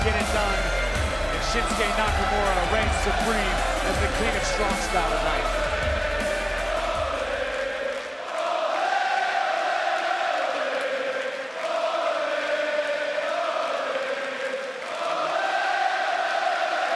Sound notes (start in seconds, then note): 5.0 fans chanting